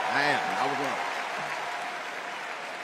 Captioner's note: applause